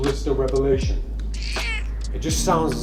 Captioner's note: squeaks